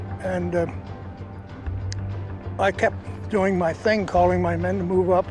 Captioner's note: clicks tongue